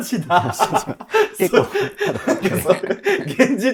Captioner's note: laughing